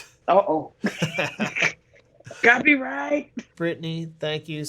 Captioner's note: laughter